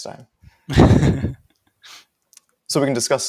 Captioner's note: laughs